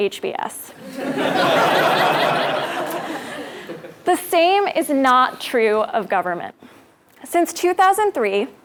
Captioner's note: laugh